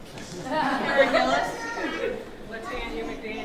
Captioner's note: audience chuckling